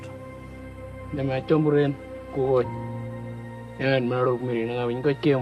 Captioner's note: foreign language